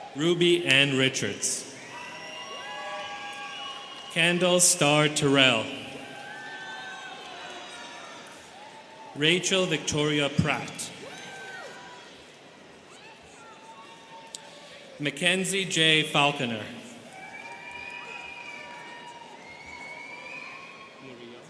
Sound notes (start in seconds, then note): 2.2 students cheering; 6.7 students cheering; 16.9 students cheering